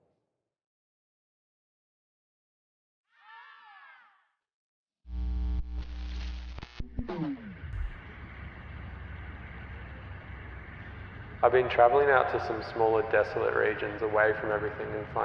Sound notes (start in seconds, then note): 3.7 child yells; 4.5 upbeat techno music